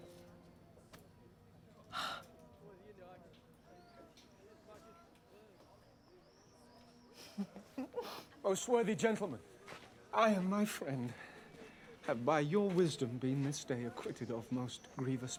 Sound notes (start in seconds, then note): 1.9 sighs; 7.1 giggles